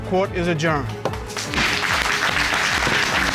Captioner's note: applause